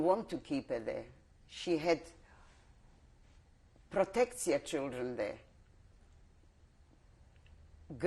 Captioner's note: pauses for 3 seconds